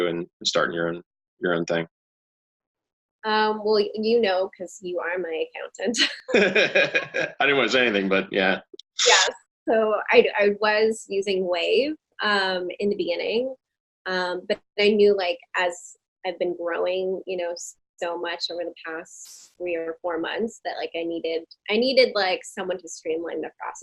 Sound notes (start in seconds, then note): 6.1 both laughing